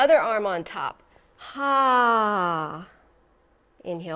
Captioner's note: sighs